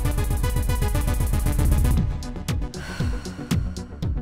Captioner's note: soundbite of archived recording